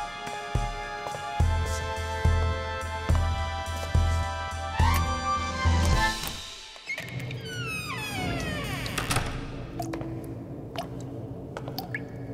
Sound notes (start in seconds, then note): 6.8 door squeaks; 9.5 water drips